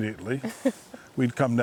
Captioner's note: laughing